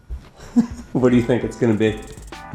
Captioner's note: laughs